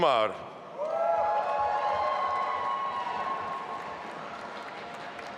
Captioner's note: audience applauding